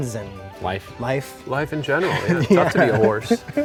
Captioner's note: chuckles